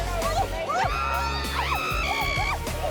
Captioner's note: shrieks; squeals